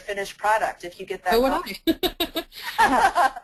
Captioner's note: voiceover